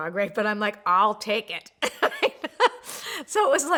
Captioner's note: laughs